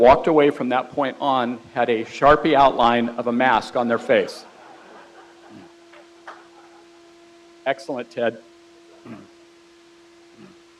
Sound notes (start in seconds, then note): 3.7 crowd laughs